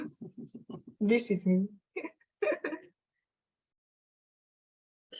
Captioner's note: laughing